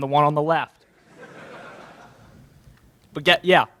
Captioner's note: laughter in crowd